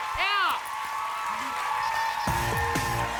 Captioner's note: cheers and applause